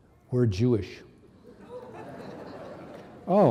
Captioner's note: audience laughing